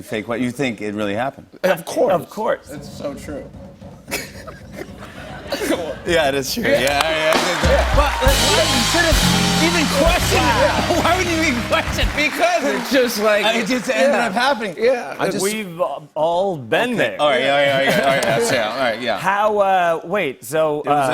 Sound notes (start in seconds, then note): 4.0 laughter; 7.4 cheers and applause; 17.8 laughter